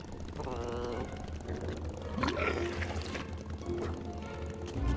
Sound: dragon flutters

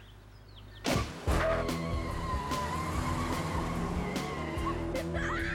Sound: tires screeching; girls cheering

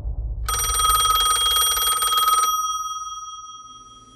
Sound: phone rings

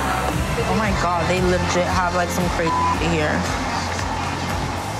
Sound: beep

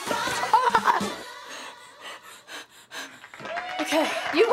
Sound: laughing; panting; crowd applauds

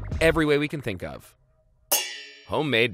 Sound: pans clanging

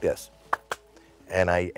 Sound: two claps

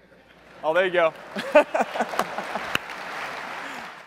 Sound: applause

